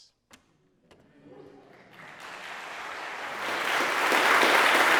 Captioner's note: audience applauds